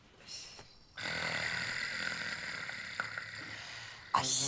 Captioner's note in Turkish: Horluyor